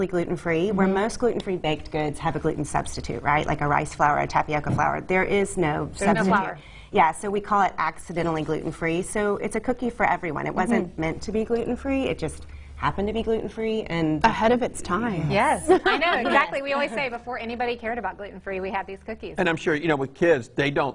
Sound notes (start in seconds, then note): 15.6 laughing